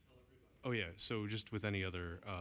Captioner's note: off mic